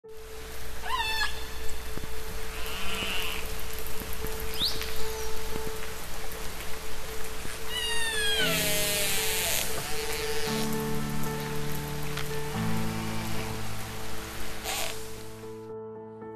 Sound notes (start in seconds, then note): 0.0 background music; 0.0 echolocation sounds